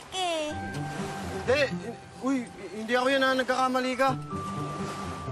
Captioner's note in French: stutters